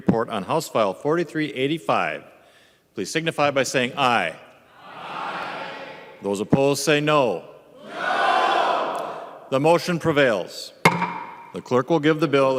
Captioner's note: chorus of ayes